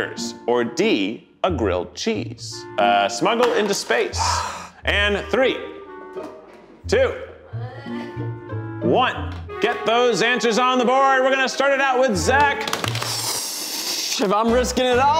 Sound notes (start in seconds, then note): 4.2 sighs; 12.8 mimics a rocket taking off